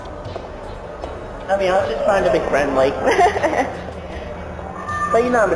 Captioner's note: nervous laughter